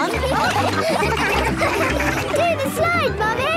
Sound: all laughing

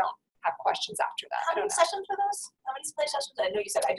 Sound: voiceover

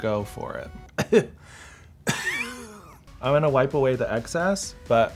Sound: coughs

